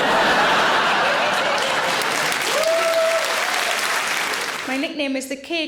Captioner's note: audience laughing; audience applauding